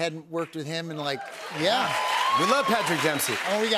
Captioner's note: cheers and applause